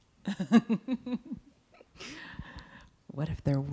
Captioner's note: laughing